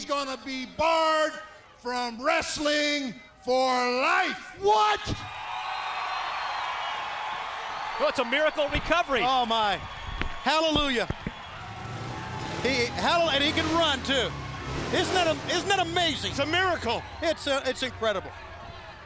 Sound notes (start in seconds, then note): 10.3 crowd cheering